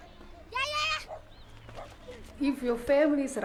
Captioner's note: shouting